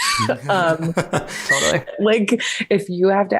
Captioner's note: all laugh